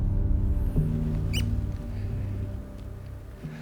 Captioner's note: haughty